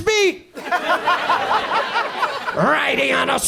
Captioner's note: audience laughs